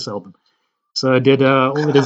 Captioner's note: laughs